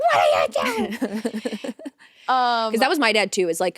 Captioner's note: Vic laughing